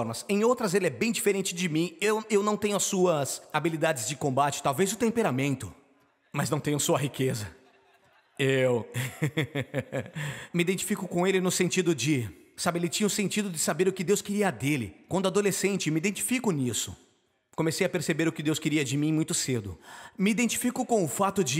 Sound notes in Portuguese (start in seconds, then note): 7.3 risos